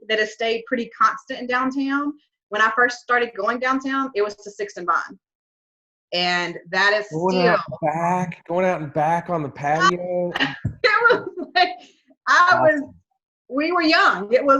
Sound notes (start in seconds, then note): 7.0 murmurs; 10.6 laughs